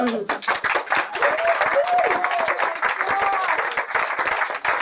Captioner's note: loud applause and cheering